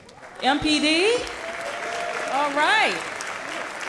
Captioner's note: applause